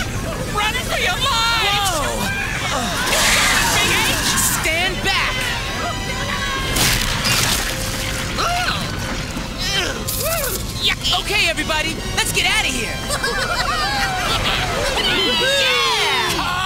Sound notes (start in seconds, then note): 9.6 grunting; 13.6 Whoppers And Big H Cheering; 16.4 Procter Yelling